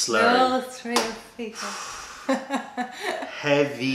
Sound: laughter

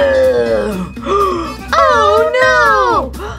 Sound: gasps

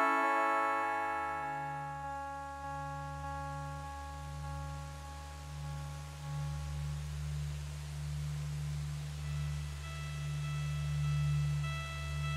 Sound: tree noises intensify

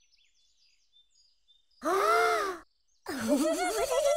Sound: both gasp; giggling

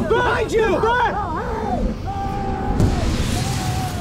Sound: screaming

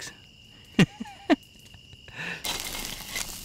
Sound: chuckles

